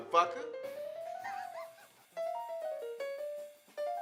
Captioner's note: laughter; jazz piano music